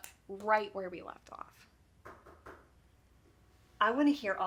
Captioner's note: fist knocking